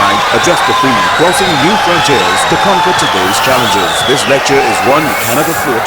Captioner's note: wild applause and cheering for 22 seconds